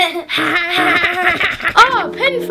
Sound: laughing

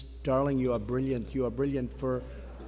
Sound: laughter

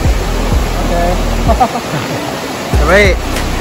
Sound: haha

